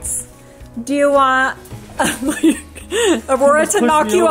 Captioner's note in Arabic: يضحك